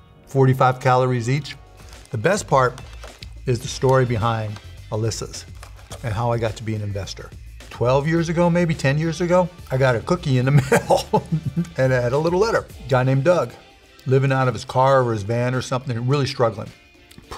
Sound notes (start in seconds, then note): 10.6 laughing